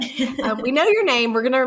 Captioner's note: laughs